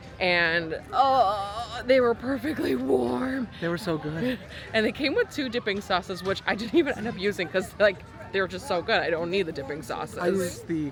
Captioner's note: exclaims